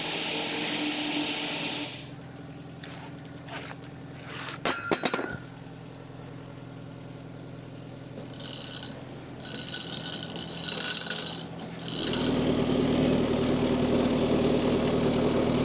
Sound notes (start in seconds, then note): 0.0 log saw whirring continues; 4.6 wood clanging; 9.4 log saw rattling; 12.4 machine rumbling